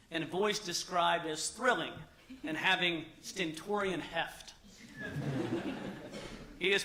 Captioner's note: laughter